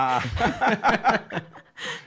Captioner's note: laughs